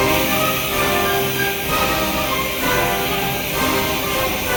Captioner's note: dramatic orchestral music; torch hissing